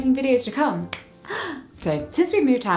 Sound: claps

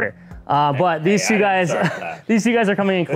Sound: laughs

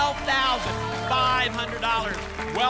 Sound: applause and cheering

